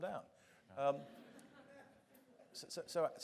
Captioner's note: audience chuckling